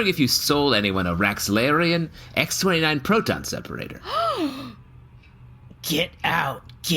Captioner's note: deep, scandalized gasp